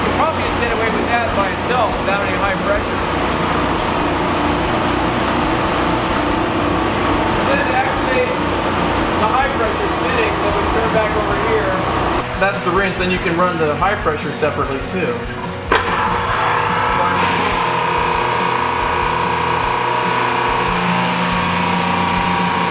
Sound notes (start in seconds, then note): 4.5 motor rattling; 19.2 air compressor rumbles